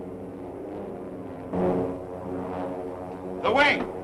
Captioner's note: wing humming overhead